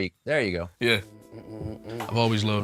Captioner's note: Jylil humming